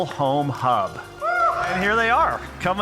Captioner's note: audience whoops